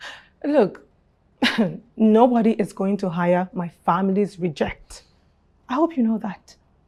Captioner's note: chuckles